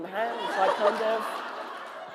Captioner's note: laughter